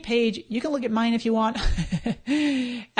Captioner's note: laughs